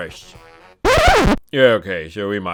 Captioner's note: record scratch